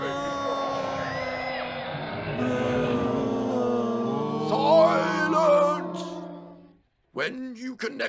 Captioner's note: wailing of lost souls